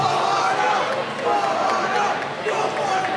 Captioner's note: cheering